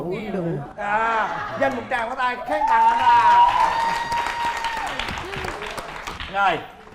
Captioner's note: applause